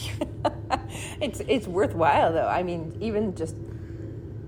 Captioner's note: laughing